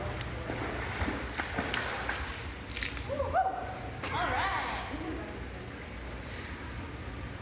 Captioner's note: water splashes; fish tail slaps the water